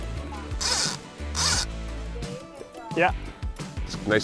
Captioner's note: rod reeling